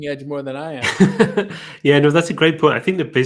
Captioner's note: chuckling